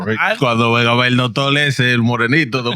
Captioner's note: speaking In Foreign Language